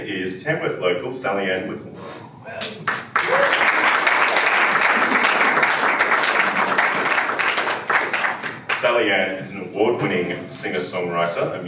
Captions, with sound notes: is Tamworth local Sally-Anne Whitten. (audience applauding) Sally-Anne is an award winning singer-songwriter,